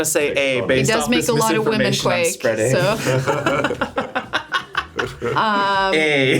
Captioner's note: laughs